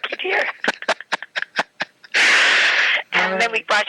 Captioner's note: laughing